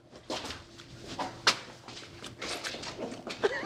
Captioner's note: laughs